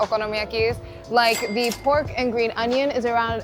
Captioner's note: chime ringing